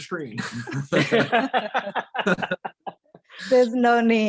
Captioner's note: laughs